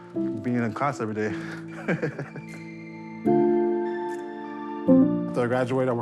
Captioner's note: laughs